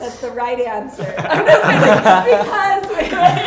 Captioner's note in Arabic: يضحك